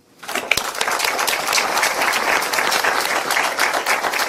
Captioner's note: audience applauds